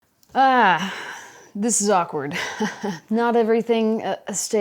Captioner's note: groans